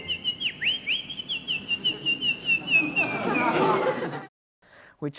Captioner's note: Guinevere whistles; audience laughs